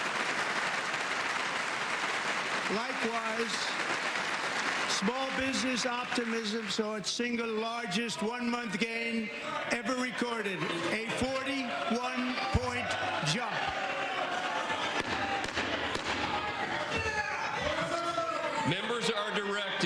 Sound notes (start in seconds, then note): 9.5 cheers; 12.8 applause